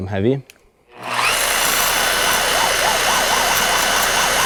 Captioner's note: spur buzzing